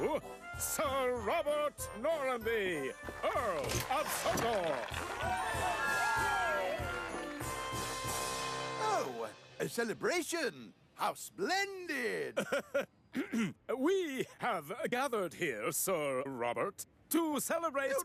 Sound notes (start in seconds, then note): 6.1 all Cheer; 6.1 engines Toot; 12.3 laughs